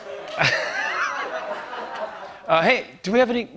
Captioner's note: laughter and applause; laughter